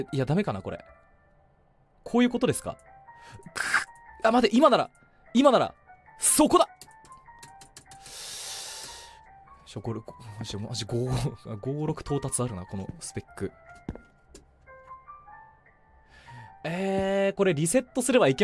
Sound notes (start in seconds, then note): 7.4 frustrated tapping; 8.0 take another deep breath; 16.0 inhales